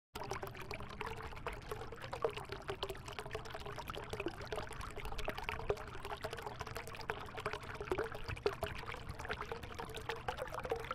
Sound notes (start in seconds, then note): 0.1 seductive Bubbling